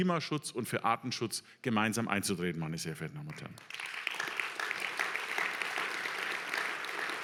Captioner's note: applause